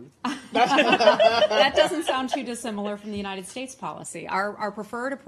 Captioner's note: laughter